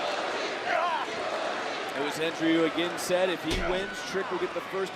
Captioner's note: crowd chants